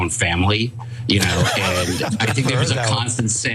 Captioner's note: laugh